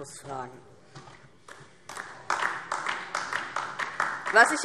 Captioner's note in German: Beifall DIE LINKE